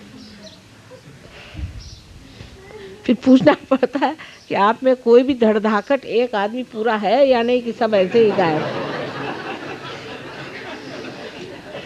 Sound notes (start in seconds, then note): 8.0 yogis laugh